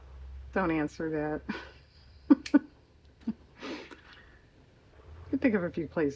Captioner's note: laughs